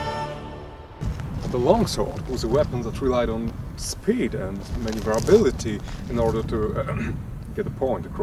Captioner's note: cough